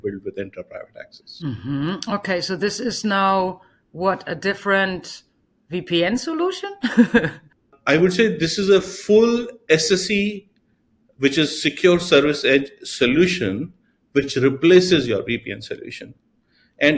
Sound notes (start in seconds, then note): 6.8 chuckles